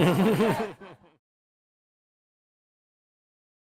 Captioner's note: laughs